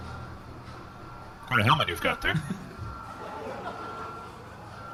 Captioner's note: audience laughter, transition